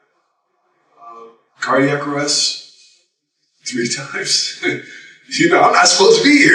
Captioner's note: chuckles